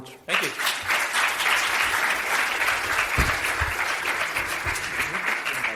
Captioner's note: audience applauding